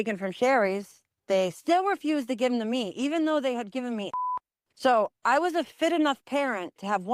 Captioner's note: beep